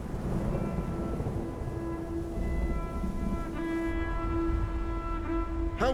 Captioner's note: thunder rumbles; ambient instrumental music